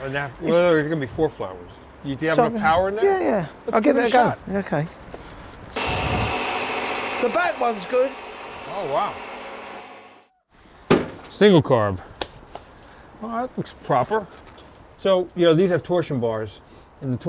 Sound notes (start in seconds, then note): 5.7 loud whirring